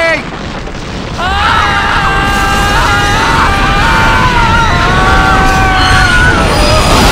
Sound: sf12_falling01

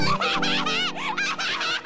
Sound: laughs maniacally

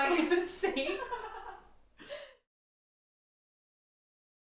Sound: laughing

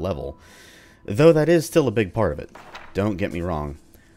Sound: journal closes

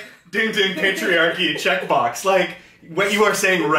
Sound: laughs

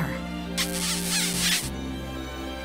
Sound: kissing

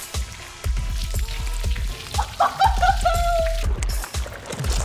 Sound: laughing

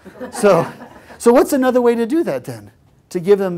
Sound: laugh

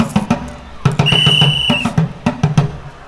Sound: p.e.t sir whistling

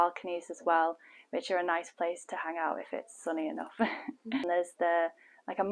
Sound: laughter

